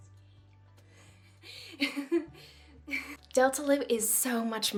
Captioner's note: giggles